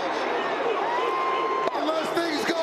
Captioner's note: applause